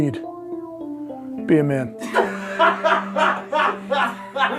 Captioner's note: guy laughs in background